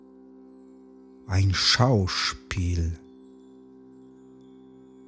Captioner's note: german